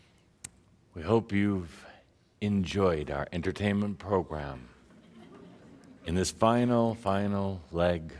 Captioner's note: some laughter